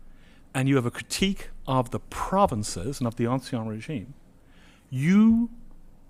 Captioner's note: french